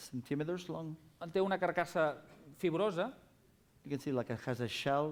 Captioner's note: non-english speech